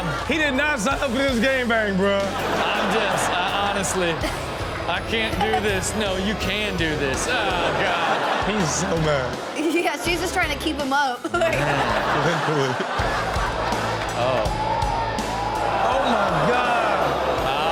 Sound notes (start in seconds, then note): 2.4 audience laughs; 7.7 audience laughs; 11.2 laughs